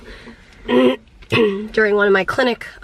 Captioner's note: clearing throat